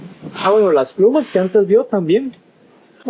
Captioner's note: in Spanish